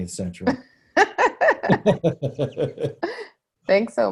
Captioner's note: laughing